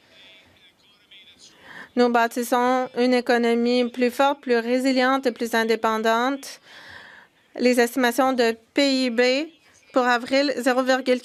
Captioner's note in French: voix de l'interprète